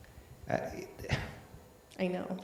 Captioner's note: sighs